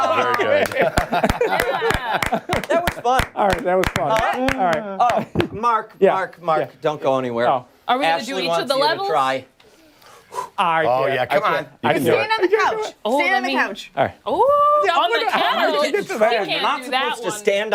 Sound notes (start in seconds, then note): 3.7 laughter